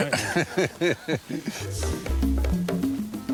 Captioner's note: laughing; middle eastern music